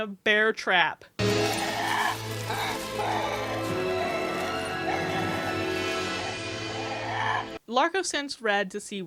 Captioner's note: LB shreiking and squawking